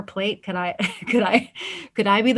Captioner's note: laughs